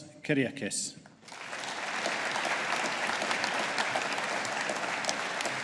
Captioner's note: audience applauding